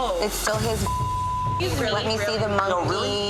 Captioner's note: beep